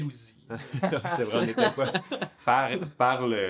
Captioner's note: laughs